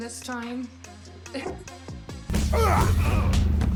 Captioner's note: laughs